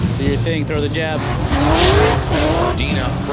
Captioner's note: engine revving